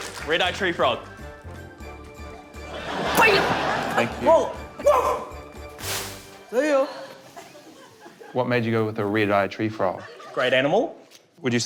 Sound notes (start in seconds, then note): 2.7 laughter